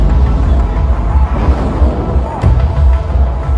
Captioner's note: explosion